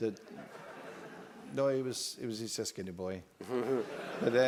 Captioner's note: laugh